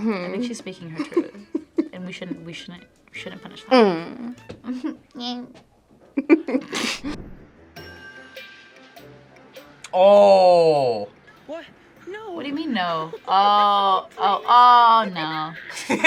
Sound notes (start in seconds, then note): 1.0 laughs; 6.2 both laugh; 7.9 playful music; 15.6 laughs